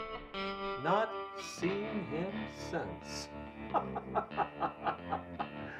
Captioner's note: laughs